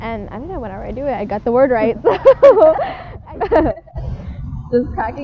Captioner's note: laugh